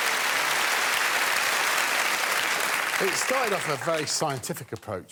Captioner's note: audience clapping